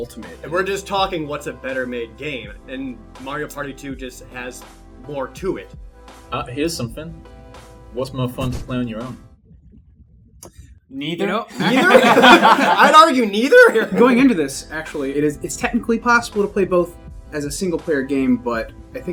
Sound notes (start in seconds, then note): 9.4 silence; 11.4 laughter